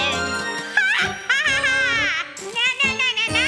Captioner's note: cackling